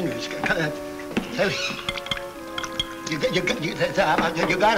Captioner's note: stutters